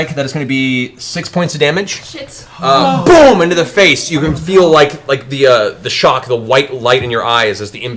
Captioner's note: boom